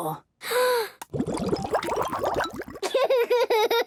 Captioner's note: water bubbling